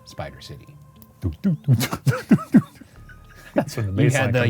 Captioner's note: mimics bass